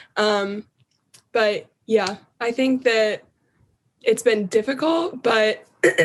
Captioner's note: cough